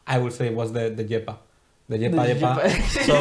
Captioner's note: all laughing